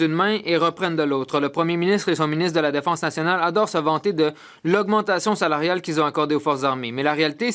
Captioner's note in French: voix de l'interprète